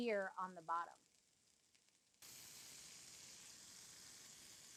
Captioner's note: oil sizzling